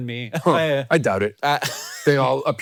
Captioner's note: Hank laughing